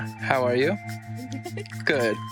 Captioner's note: laughs